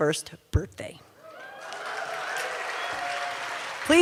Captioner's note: cheers and applause